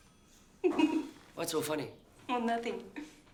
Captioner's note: Marie laughs